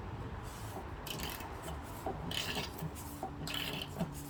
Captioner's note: tightening sound